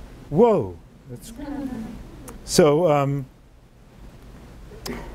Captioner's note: audience laughing